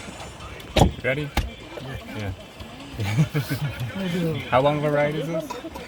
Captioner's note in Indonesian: tertawa